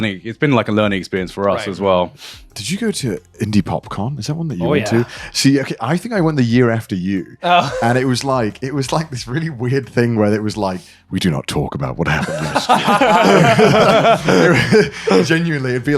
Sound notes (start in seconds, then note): 7.4 Jack laughs; 12.0 laughing